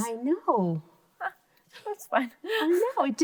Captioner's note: laughs